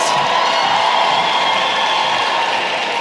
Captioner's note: applause